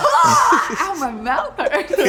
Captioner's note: laughs